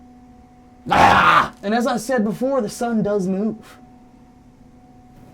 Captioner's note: grumbles loudly